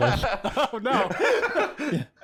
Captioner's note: laughs